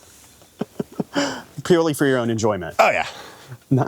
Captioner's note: laughs